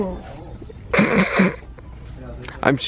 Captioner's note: snorts